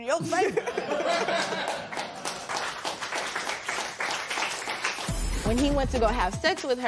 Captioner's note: laughter and applause